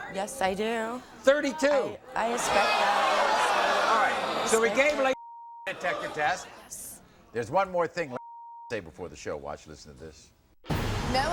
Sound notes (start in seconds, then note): 2.2 audience groans; 5.2 beep; 8.2 beep